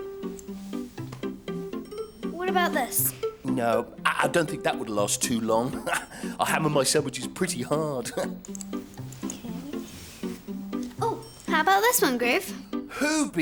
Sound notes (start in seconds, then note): 0.2 light upbeat music; 5.5 laughs; 8.3 laughs